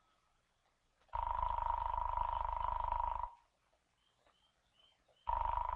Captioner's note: phone continues to ring